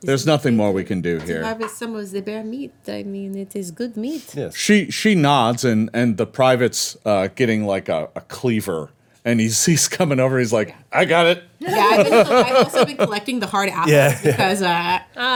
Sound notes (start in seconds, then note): 11.7 everyone laughing